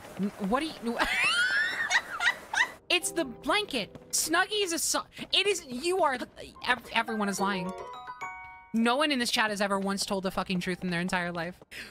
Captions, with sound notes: W-what are you... [Bursts Out Laughing] It's the blanket! Snuggie is a so- It is- You are... [Stammering] Everyone is lying. No one in this chat has ever once told the fucking truth in their entire life.